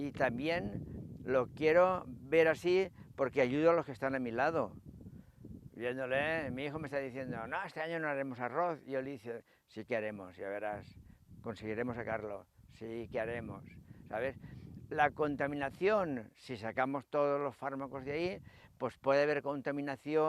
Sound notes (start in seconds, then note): 5.4 Spanish